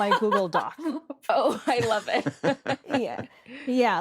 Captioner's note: chuckles